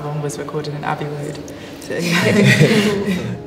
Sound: laughing

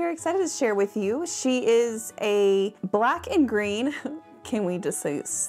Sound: chuckles

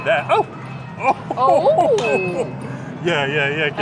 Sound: laughs

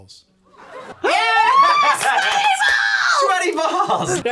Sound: laughs

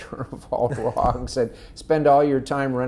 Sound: laughing

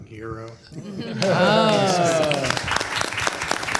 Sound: applause

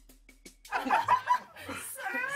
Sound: laughs

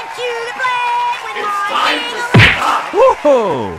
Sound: filthy frank voice

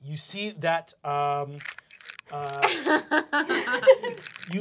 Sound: combination lock ticking

